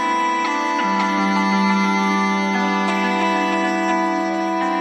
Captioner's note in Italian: Applauso